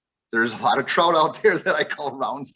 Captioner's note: laughs